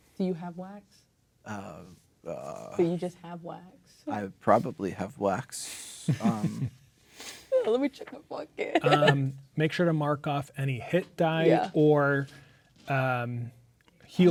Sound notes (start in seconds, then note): 6.0 chuckling